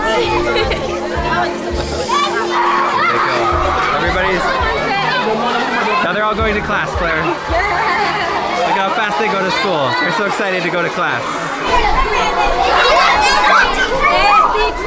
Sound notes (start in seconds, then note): 0.1 giggling; 2.5 children playing; 4.6 children drowns out speaker; 11.3 children talking loudly